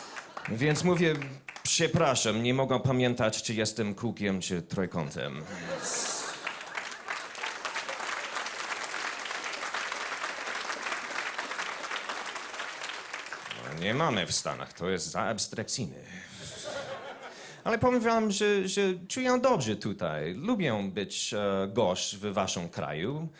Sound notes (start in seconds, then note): 5.7 applause